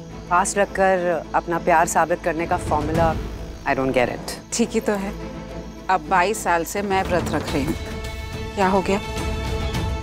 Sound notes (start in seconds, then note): none